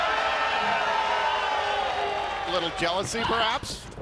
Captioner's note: cheers and applause